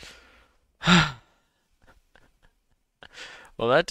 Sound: hard exhale; laughs

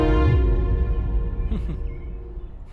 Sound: scoffs

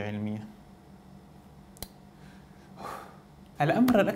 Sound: exhauls

